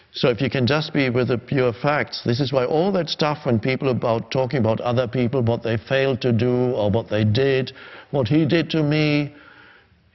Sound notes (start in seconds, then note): none